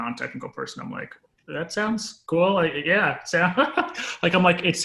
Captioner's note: laughs